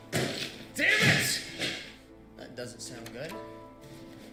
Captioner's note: loud banging, clatter